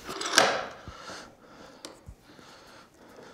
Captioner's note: concentrated breathing